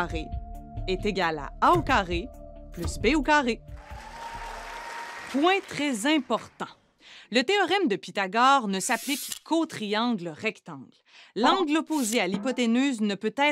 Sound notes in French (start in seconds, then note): 3.7 applaudissements